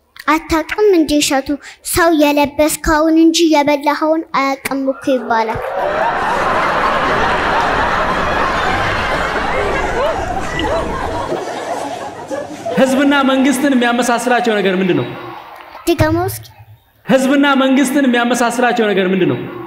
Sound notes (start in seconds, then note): 5.1 laughter